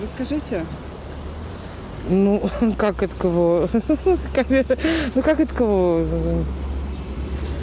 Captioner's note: laughing